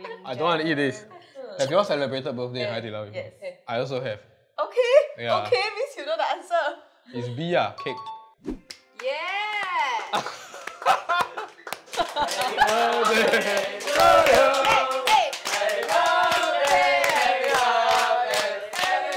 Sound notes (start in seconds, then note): 9.6 claps